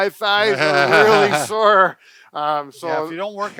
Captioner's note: chuckles